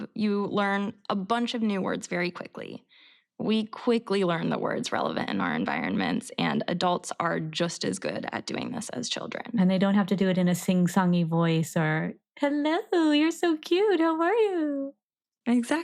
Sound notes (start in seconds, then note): none